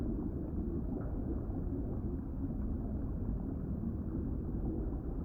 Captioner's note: water gurgling continues